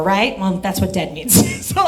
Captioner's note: laughs